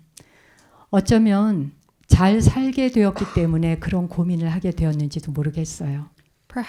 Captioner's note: speaking in Korean